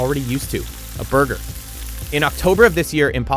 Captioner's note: sizzling